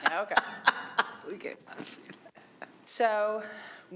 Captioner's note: laughing